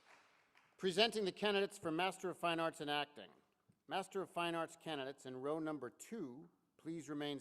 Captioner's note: applause